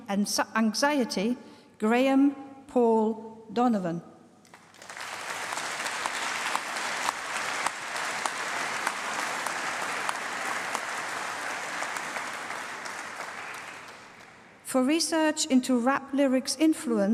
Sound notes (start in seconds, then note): 4.4 applause